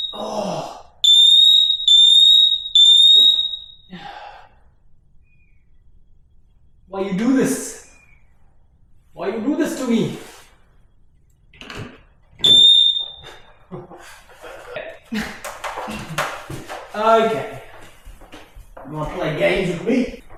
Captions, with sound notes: (Grunts) (Beeping) (Sigh) Why you do this? Why you do this to me? (Beeping) (Clapping) Okay. You want to play games with me?